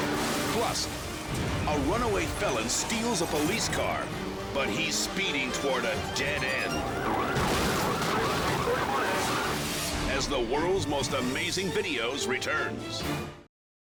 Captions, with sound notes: Plus, a runaway felon steals a police car, but he's speeding toward a dead end. (sirens wailing) (car crashes) As the "World's Most Amazing Videos" returns.